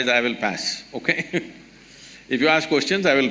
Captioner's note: laughs